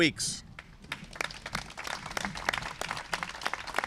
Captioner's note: applause